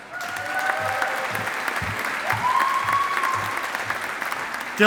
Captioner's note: audience applauding